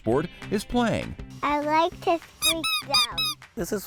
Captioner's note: toy duck squeaking